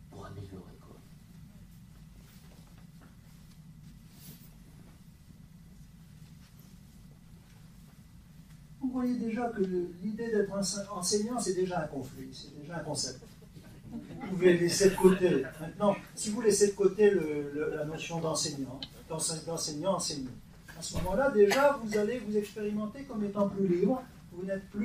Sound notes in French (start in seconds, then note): 13.1 rires